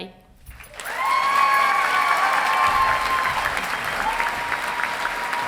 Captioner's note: audience cheering and applauding